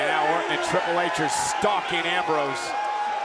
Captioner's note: applause